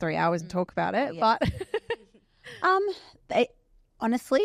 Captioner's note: laughs